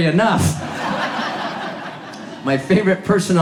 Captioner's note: audience laughs